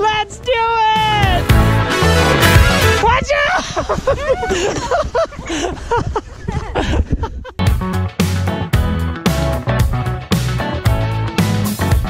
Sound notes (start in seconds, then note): 3.6 laughter; 7.6 upbeat music